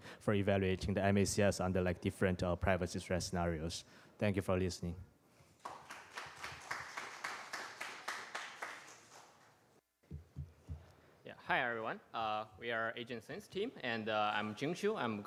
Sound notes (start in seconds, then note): 5.5 applause